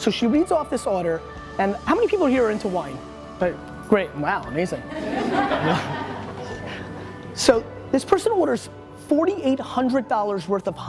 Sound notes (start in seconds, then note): 4.8 laughter